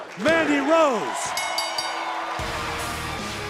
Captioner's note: bell ringing